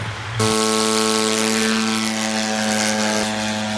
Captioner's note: drone flying